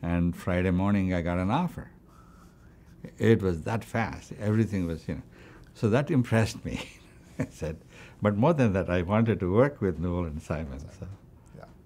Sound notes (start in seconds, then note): 6.6 chuckles